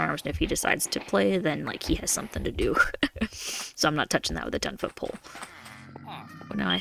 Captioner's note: laugh